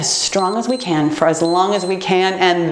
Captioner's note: timer beeps